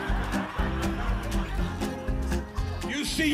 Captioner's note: audience laughing